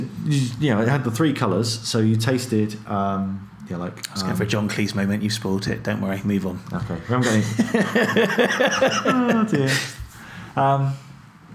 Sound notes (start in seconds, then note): 7.2 laughing